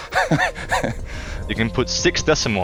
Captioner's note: laughs